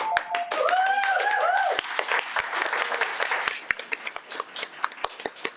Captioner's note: audience cheers and applauds